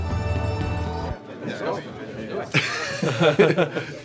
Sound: music stops; the squad chatters over the puzzle

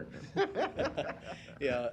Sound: laughs

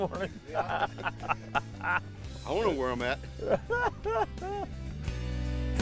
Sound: laughing

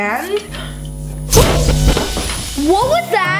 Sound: machine zaps

